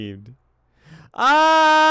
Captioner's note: inhale